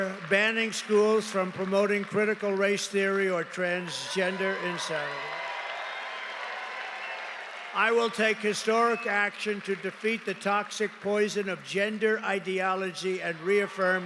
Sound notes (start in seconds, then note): 7.7 cheering